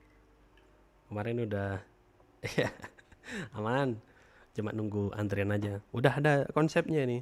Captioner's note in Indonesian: tertawa